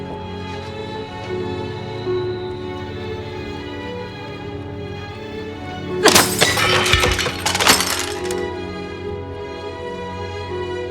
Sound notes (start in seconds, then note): 6.0 glass shattering